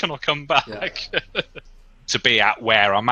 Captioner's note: laughs